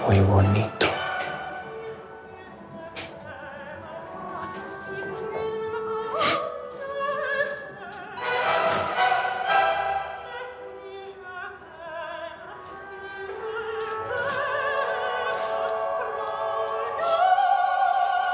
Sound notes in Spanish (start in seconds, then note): 0.0 Sollozos; 4.5 ¶ Ópera ¶; 15.6 ¶ Ópera ¶